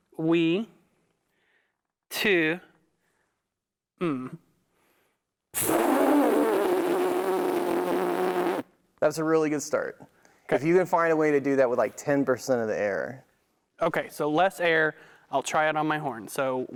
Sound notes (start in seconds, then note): 5.5 makes noise with lips